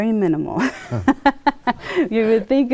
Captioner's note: laughs